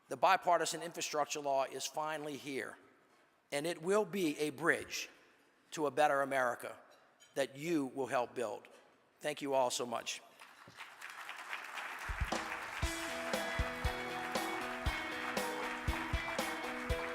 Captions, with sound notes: the Bipartisan Infrastructure Law is finally here. And it will be a bridge to a better America that you will help build. Thank you all so much. (audience applauds) (upbeat happy music)